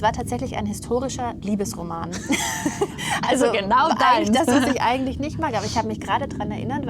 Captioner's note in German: gelächter